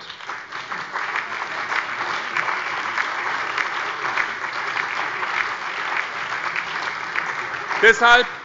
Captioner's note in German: Beifall